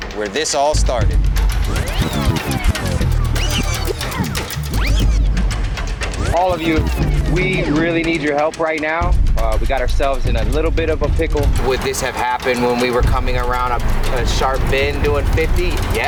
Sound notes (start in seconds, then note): 1.4 rewinding noises